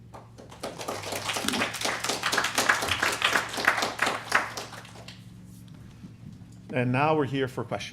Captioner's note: applause